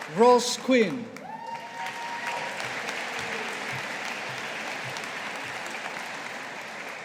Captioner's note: audience applauding